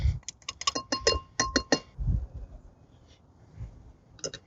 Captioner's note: metal tapping